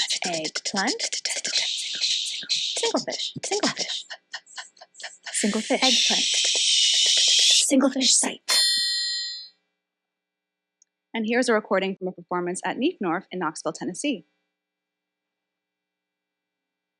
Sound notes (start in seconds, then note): 8.5 bell dings